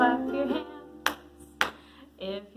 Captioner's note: claps